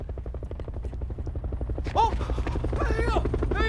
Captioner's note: helicopter sound